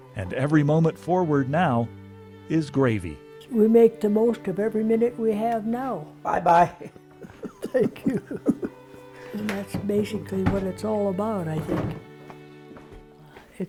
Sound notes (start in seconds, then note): 6.7 both chuckling